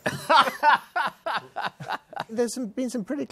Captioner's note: laughs